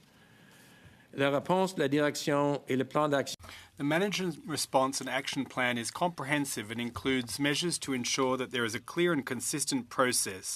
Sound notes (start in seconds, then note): 5.4 speaking french